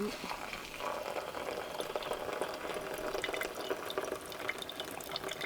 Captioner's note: liquid pouring; liquid dripping